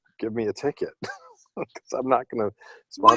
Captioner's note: laughter